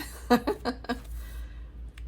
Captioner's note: nervous laugh